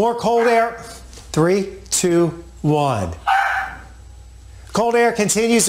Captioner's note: dog barking